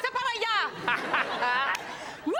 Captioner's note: audience laughs; laughs